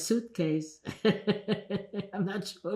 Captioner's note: laughing